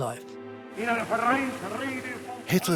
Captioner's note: speaking German